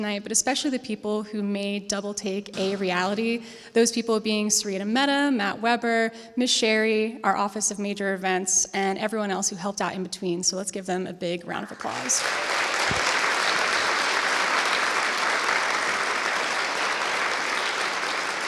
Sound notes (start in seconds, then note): 11.6 applause